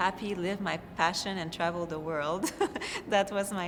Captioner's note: chuckles